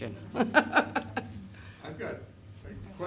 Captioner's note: laughter